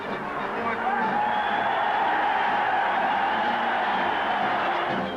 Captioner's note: parade music; crowd cheering